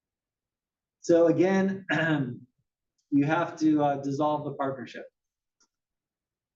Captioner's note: cough